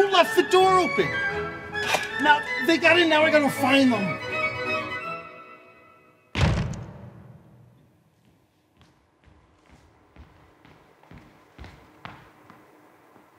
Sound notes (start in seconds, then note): 6.3 door slams; 10.3 footsteps tapping